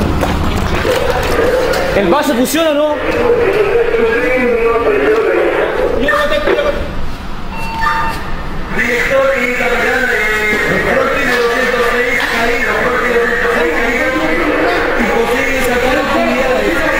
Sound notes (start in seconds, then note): 5.0 radio